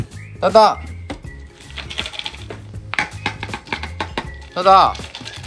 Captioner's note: sound of shaking snacks